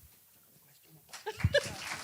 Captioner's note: audience applause